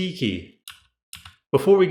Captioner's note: The sweet sound of MX Cherry Blues being pressed